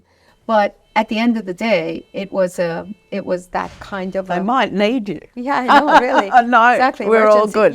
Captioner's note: alarm ringing; laughing